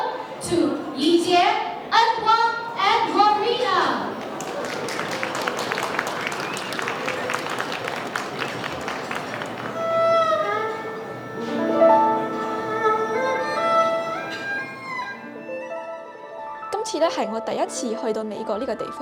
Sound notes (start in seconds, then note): 4.1 audience Applause; 9.6 violin, Erhu, and Piano Music